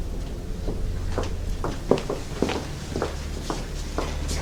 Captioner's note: footsteps approaching